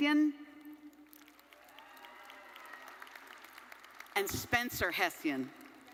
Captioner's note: audience cheering and applauding